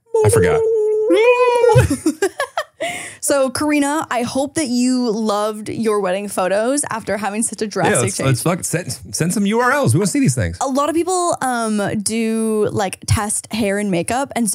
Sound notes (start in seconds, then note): 1.9 laughing